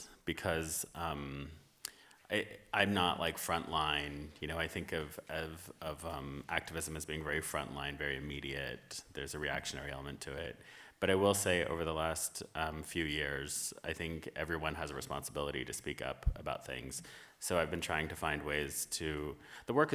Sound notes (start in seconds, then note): none